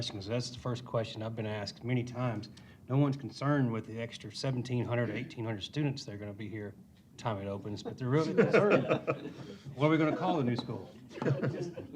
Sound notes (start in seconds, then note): 8.2 laughter